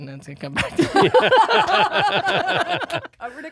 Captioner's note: laughing